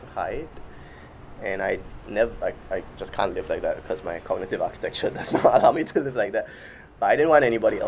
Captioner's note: laughs